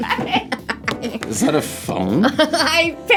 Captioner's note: laughs